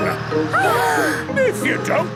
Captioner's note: children gasp